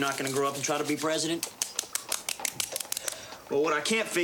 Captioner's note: slapping